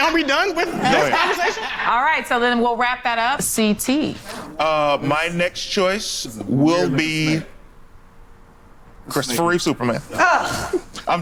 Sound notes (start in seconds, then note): 5.6 background chatter; 10.1 laughs